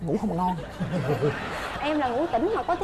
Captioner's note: laughing